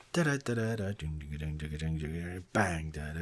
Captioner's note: hums theme